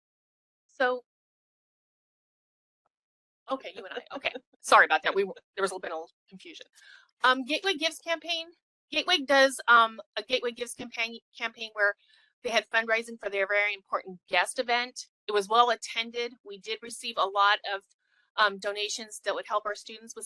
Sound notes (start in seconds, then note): 3.7 laughing